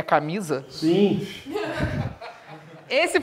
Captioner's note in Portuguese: risadas